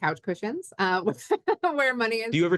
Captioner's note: laughing